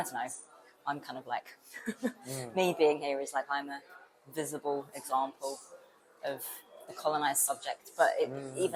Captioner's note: laughs